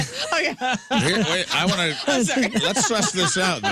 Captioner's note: laughing